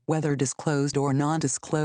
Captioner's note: female Computer Voice